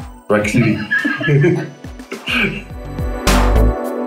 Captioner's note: laughs